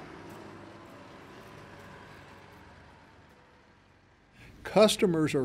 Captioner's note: tractor engine running